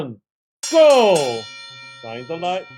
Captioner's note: bell ringing